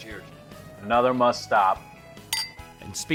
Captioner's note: glasses clinking